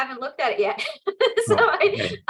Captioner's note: laughs